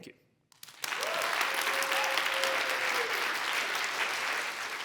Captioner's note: applause